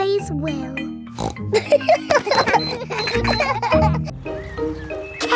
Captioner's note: snorts; kids laughing